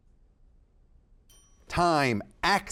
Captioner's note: bell ringing